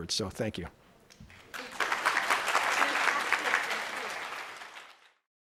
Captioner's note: crowd applauding